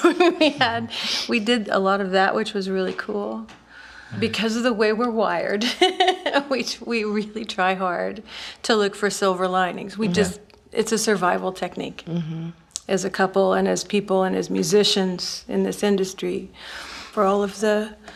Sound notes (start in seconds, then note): 5.8 laughing